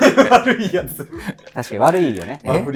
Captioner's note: laughing